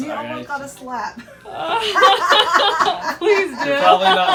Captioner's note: laughter